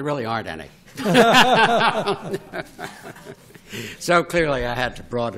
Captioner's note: laughter